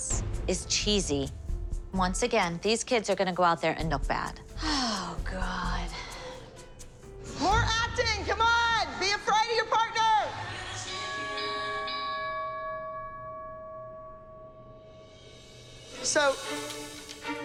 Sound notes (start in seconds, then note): 4.6 sighing; 11.2 boxing bell rings